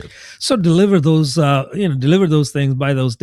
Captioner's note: uh